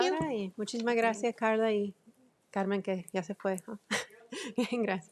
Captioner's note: speaks Spanish